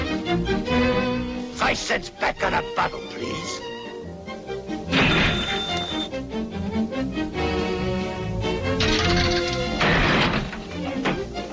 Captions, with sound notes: - Five cents back on the bottle, please. (cash register ringing) (slot machine clicking)